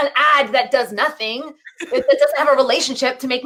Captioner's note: laughing